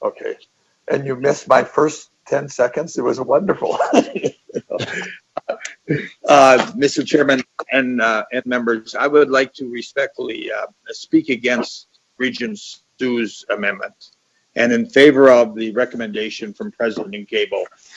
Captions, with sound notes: - Okay, and you've missed my first 10 seconds. It was a wonderful! (laughs) Mr. Chairman and members, I would like to respectfully speak against Regent Hsu's amendment and in favor of the recommendation from President Gabel.